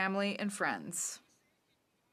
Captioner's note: speaking French